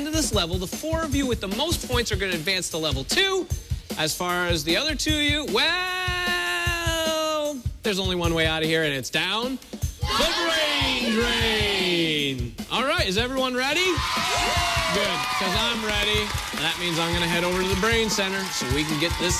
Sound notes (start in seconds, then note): 13.8 cheers and applause